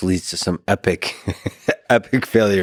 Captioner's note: Lex laughs